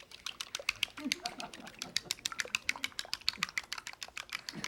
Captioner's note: audience laughing